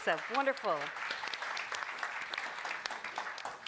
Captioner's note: applause